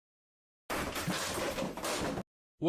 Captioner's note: noises of door getting kicked down by a giant lizard